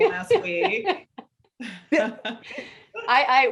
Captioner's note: laughing